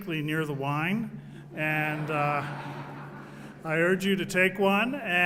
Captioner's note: laugh